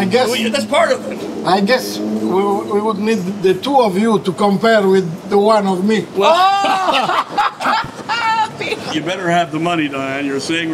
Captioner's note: all laugh